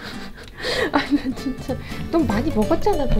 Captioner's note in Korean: 웃음